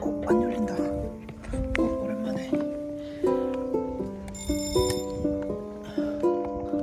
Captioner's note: ringing the bell🔔